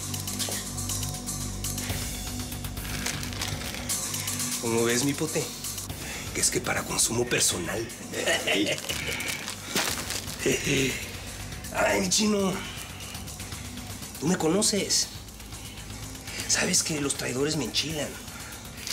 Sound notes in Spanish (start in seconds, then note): 8.1 Risas